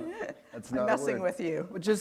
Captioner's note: chuckle